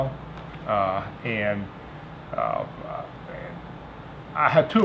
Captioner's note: stuttering